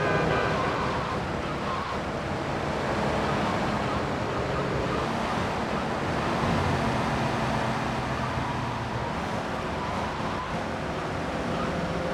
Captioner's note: tires screeching